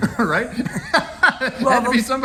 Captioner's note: laughs